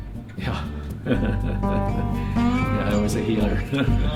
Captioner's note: laughs